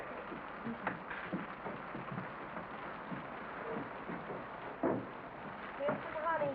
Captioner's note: rain patters